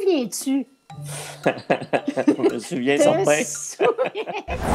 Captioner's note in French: rires